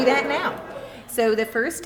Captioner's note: laughter